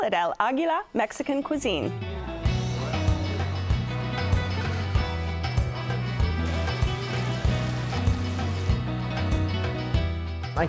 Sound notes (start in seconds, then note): 2.0 guitar strumming; 6.6 sizzling